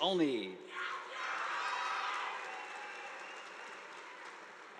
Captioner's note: audience applauding